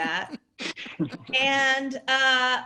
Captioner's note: laughter